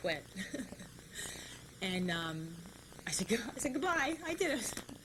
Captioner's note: laughs